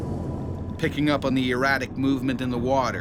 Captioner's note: voiceover